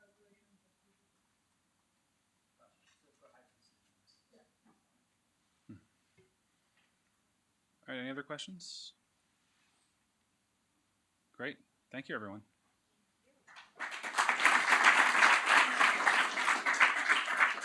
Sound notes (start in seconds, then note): 13.4 applause